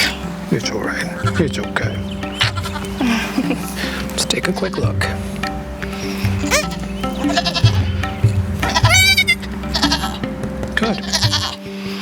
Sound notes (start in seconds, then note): 7.0 kid bleating